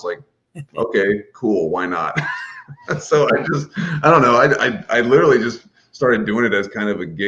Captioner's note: laughs; laughs